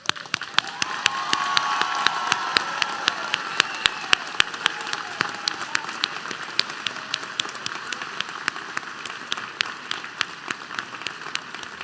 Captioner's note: applause